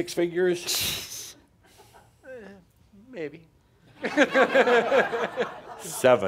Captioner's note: laughter